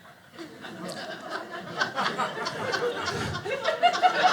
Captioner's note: audience laughing